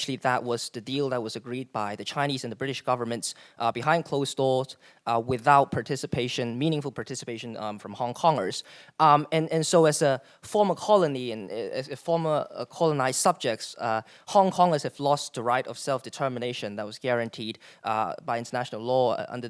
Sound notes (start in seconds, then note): none